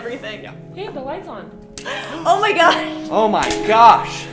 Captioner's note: gasps